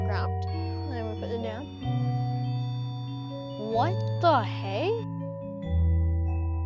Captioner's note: REM-Pod squeeling